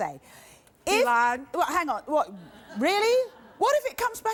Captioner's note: audience laughing